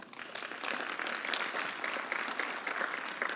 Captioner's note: applause